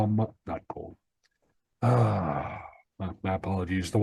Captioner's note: groaning